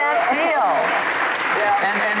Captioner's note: applause